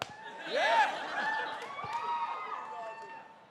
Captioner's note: cheering